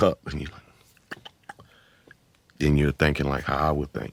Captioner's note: beat boxing